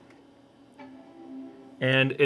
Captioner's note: computer chimes softly